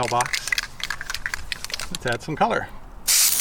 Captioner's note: spray can shaking; spraying